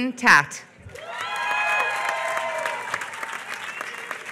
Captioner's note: applause